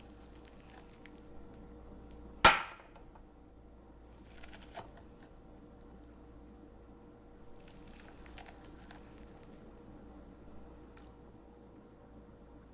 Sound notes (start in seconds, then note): 2.2 spoon smacks on cutting board; 4.9 spoon scraping pulp